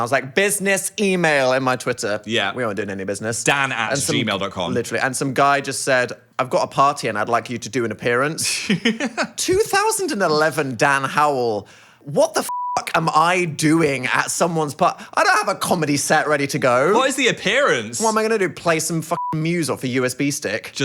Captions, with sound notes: I was like, business email in my Twitter. - Yeah. - We aren't doing any business. - Dan@gmail.com. - Literally. And some guy just said, I've got a party and I'd like you to do an appearance. 2011 Dan Howell, what the (beep) am I doing at someone's party? I don't have a comedy set ready to go. - What is the appearance? - What am I gonna do? Play some (beep) music off a USB stick?